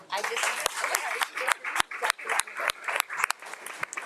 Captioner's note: audience applauds